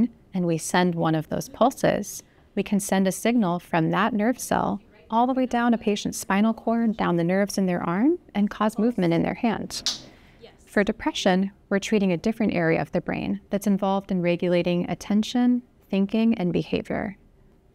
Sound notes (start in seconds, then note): 9.7 electric buzz